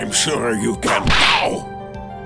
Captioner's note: whip crack!